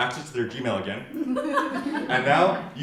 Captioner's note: audience laughs